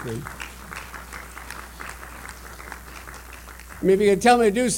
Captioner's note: applause